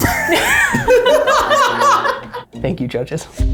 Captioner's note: judges laughing